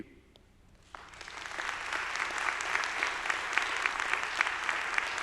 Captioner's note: audience applauding